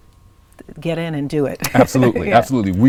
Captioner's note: laughs